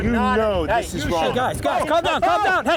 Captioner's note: shouting over each other